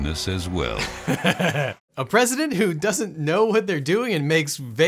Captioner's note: laughing